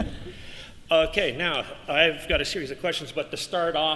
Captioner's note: laughter